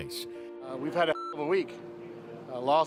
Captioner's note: beep